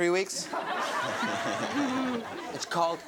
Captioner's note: audience laughs